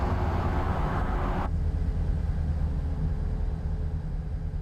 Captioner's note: engine revving